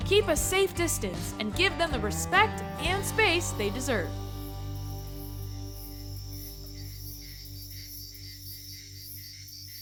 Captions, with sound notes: Keep a safe distance, and give them the respect, and space, they deserve. (bugs chirp)